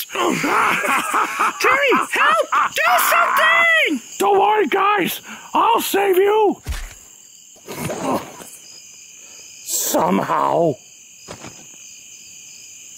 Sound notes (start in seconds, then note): 0.1 Karson cackling evilly; 7.6 Terry grunts